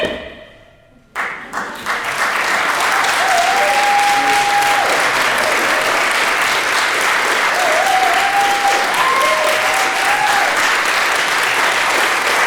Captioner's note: applause, cheering